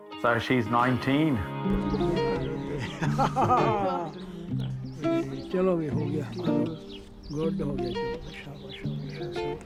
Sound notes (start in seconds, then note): 2.7 old man laughing; 3.0 old man speaking Punjabi